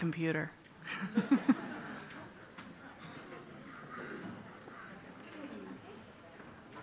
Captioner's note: laughs